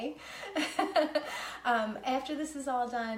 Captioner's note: laughing